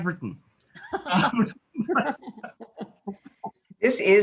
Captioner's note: laughs